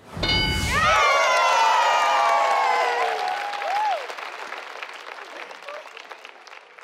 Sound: metallic chime; family and audience cheers

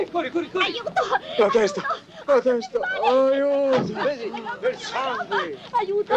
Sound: female voice

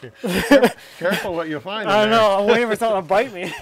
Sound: laughs

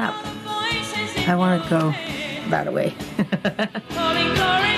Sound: chuckles

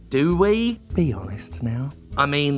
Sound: quietly

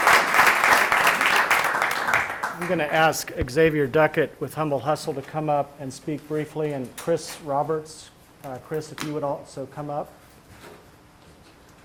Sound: applause

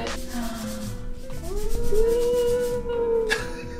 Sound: wooing

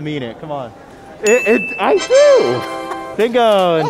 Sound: laughing

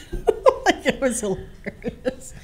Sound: laughing

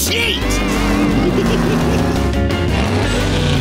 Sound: giggling

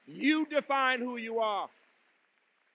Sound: applause

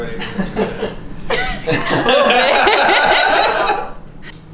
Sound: laughter

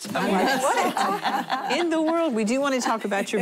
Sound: laughing

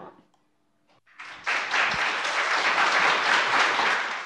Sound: applauding

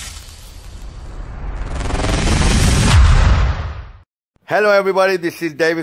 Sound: electric static and thunder

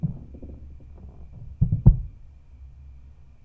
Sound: thud

